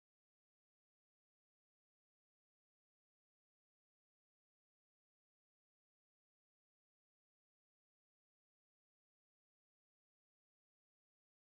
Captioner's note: speaking Anishinaabe